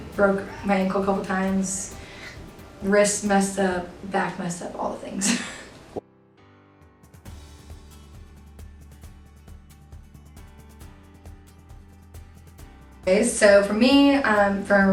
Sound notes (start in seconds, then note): 5.2 chuckles; 6.9 calm music